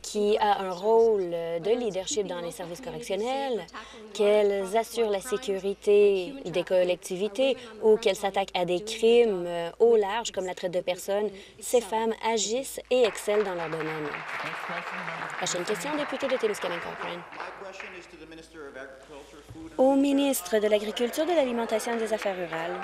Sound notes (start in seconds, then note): 17.9 applause